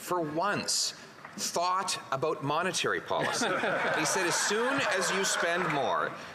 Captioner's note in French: applaudissements; voix de l'interprète